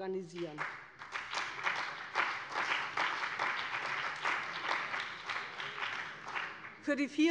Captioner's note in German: Beifall bei dem BÜNDNIS 90/DIE GRÜNEN und der CDU